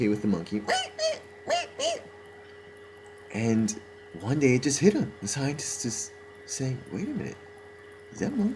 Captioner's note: mimicks monkey sound